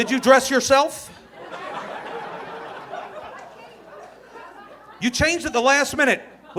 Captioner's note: audience laughing